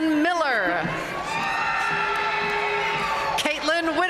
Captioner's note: audience cheering and applauding